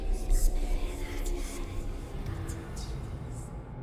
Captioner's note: eerie whispering